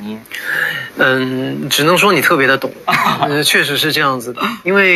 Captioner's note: laughs